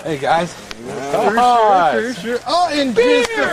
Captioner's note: celebratory noises